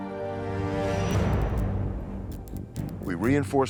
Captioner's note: dramatic music; light buzzing